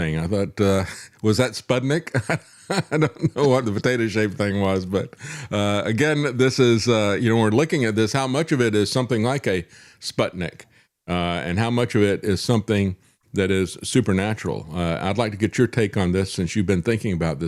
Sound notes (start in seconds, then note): 2.1 laughs